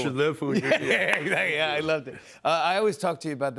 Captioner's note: laughing